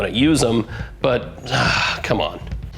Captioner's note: sighs